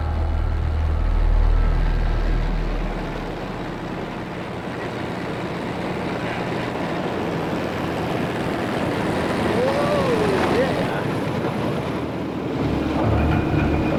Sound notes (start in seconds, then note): 1.6 jet engine roaring; 12.5 intense music